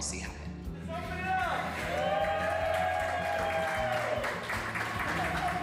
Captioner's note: audience cheering